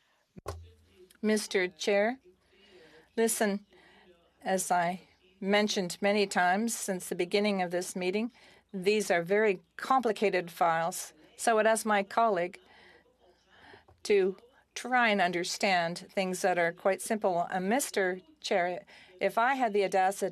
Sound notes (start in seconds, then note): 5.5 speaking FRENCH